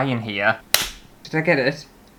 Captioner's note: clap!